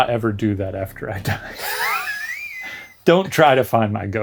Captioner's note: both laugh